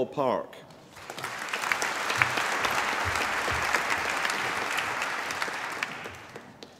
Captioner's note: applause